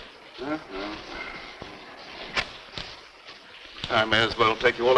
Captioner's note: Mr. Bradford humming